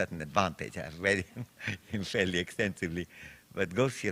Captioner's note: chuckles